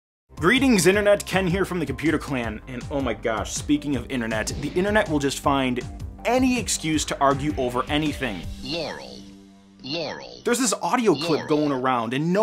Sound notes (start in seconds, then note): 8.7 vocal recording playing